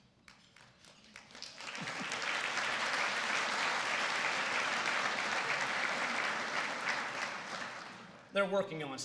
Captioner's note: applause